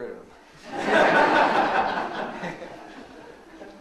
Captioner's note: laughs; all laughing